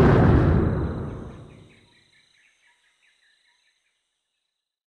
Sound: birds chirping

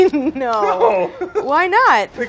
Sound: laughs

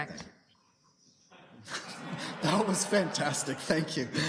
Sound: laughter

